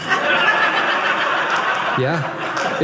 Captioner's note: audience laughing